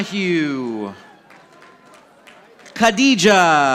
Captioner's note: audience applauding